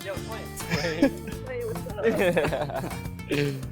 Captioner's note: men laugh